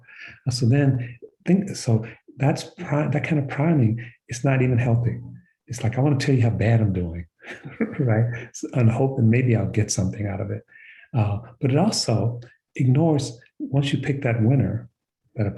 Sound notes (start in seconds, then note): 7.4 chuckles